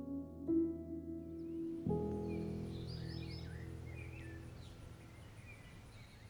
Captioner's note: birds chirping